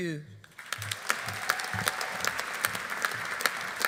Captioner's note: audience applauding